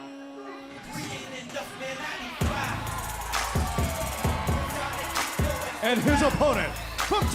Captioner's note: crowd cheering